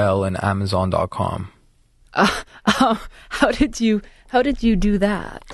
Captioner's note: laughs